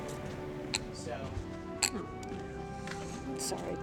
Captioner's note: crying